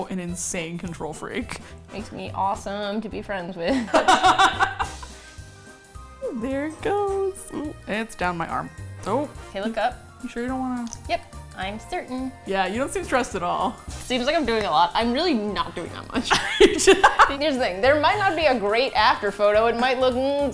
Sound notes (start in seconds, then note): 3.7 laughs; 11.8 sarcastically; 16.2 laughs